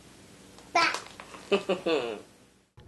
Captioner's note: laughter